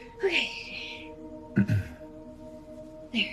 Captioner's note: Darren clearing throat